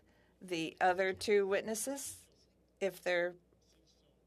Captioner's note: speaking French